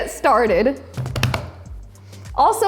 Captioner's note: hands tapping